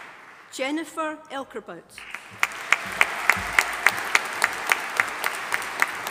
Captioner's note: audience applauding